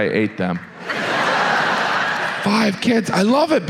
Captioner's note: audience laughs